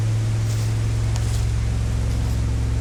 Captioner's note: footsteps approaching